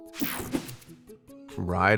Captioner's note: slide whooshes